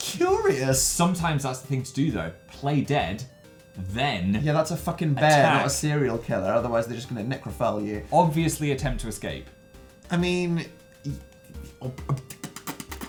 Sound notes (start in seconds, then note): 11.8 splutters